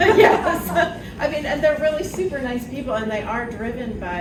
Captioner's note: laughs